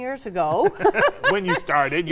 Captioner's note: both chuckling